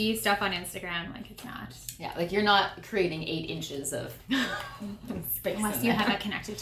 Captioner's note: laughter